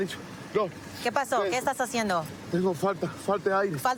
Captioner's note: speaking spanish